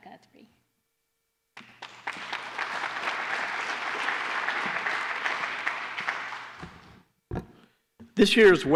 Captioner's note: applause